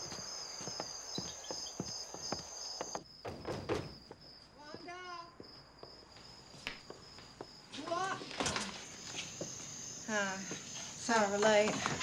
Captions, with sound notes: (soft knocking on door) Wanda! You up? Hi, sorry we're late.